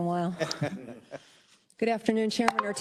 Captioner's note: Council members laugh